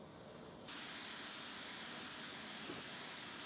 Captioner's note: torch hissing